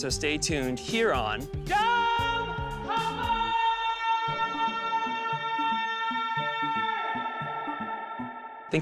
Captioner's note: screaming